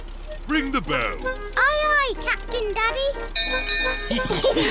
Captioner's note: bell rings; all laugh